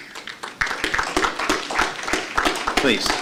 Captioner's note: applause